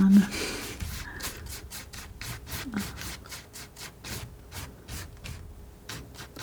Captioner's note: sniffing